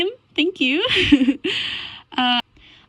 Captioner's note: giggle